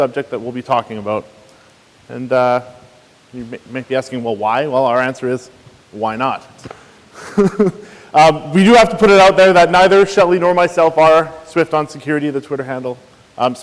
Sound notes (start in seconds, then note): 7.1 chuckles